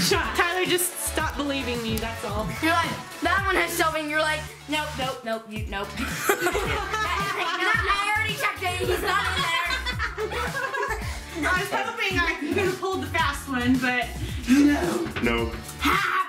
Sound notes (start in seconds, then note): 6.0 laughing